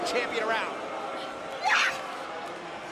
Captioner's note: crowd chatter